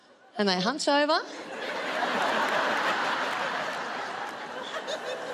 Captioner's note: audience laughing